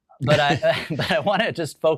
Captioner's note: both chuckling